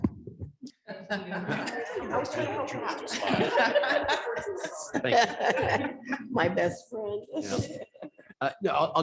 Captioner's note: chuckling